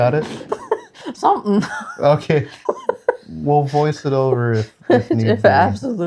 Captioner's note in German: lacht